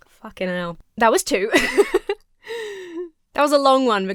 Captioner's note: laughs